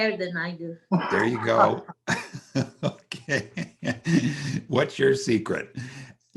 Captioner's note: laughs